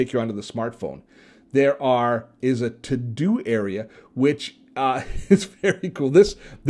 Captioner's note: chuckles